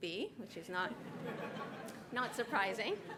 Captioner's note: laughter